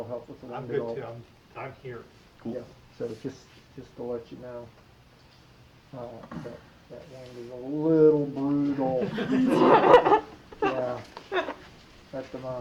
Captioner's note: laughter